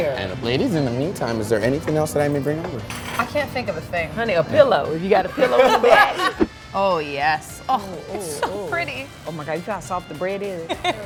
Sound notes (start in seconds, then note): 5.2 laughter; 10.7 laughs